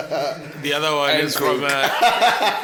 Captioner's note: everybody laughs; laughs